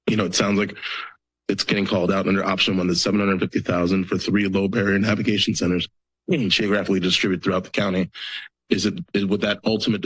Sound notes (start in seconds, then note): none